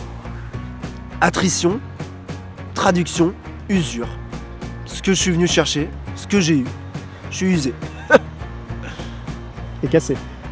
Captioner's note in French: rires